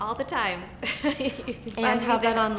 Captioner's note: laughs